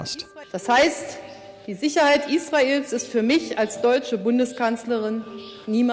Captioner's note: speaks in foreign language